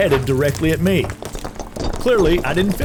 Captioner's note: rocks crashing